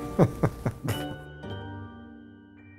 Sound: laugh

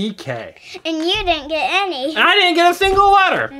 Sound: voiceover

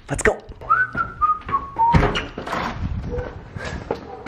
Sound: whistling

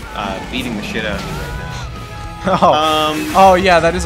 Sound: laughs

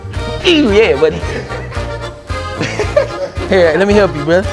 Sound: laughing

